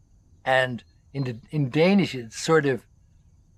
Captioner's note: speaks in Danish